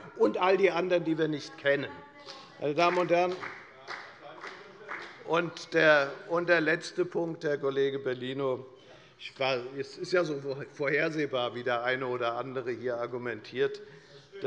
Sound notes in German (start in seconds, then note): 2.6 Beifall bei der : Das ist eine Unterstellung!